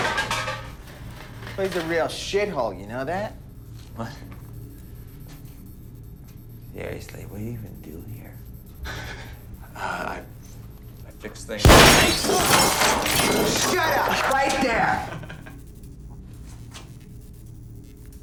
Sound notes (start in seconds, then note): 10.3 laughs; 11.7 gunshot